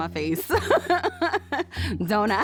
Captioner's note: laughs